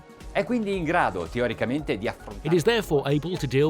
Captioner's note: speaking in a foreign language